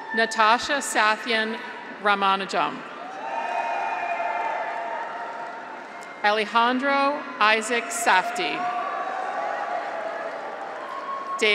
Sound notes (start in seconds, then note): 3.0 graduates cheer; 9.0 graduates cheer